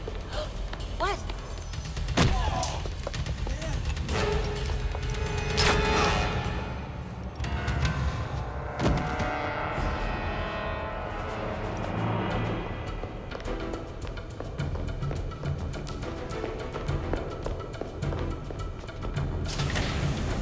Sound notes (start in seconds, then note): 0.5 gasps; 5.5 tranquilizer gun fires